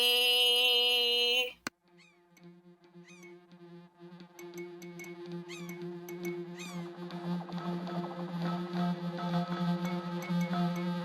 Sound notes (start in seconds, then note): 4.1 plinking; 5.5 bird call